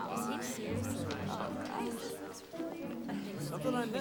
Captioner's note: students murmuring; curious orchestral music